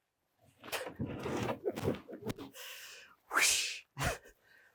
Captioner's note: speaker laughing